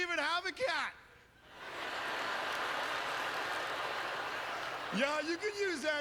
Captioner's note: audience laughter